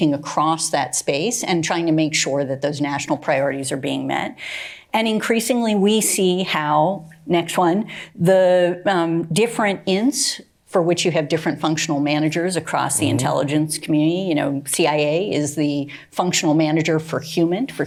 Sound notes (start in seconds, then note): none